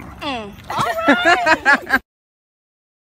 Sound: laughs

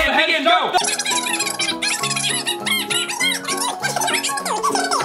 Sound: fast forward sound

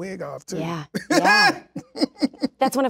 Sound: laughs

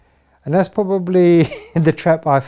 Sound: chuckles

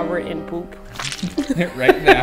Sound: laughter

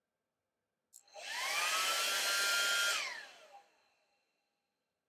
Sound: hairdryer turning on & off

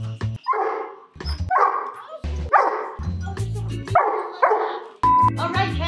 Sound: dog barking

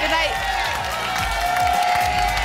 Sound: applause and cheering cont

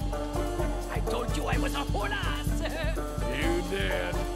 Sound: laughs

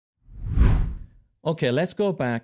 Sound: text whooshes

